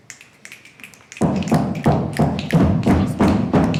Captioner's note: crowd stomping their feet